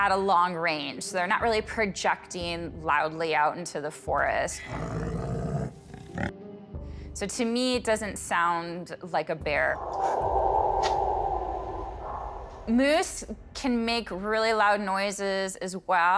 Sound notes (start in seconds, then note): 4.6 bear grunting; 9.7 eerie sound